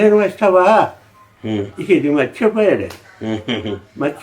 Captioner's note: laughs